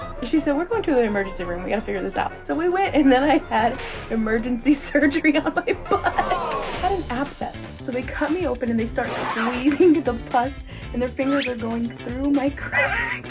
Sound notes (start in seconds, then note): 5.8 laughing; 12.6 wheezing